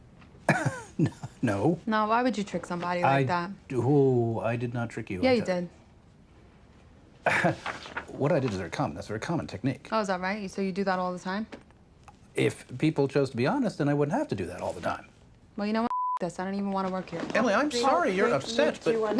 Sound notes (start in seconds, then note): 0.4 scoffs, chuckles; 7.0 scoffs